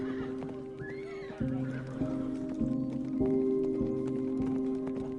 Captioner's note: horse neighing; hooves pattering